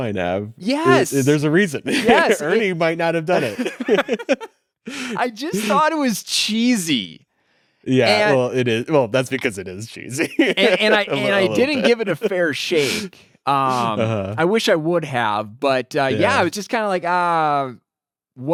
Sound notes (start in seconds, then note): 3.3 both laughing; 10.0 laughs